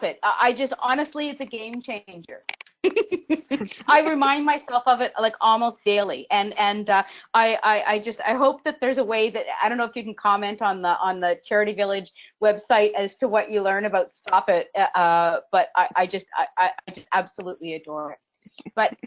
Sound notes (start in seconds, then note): 2.8 laughs